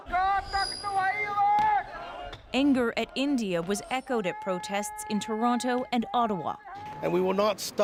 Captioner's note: chanting